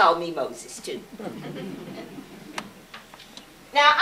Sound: audience chuckles

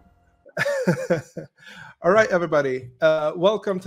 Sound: laughs

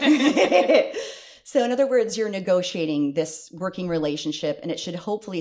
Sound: laughter

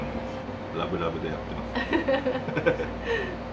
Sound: laughs

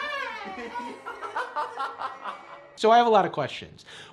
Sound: laughing

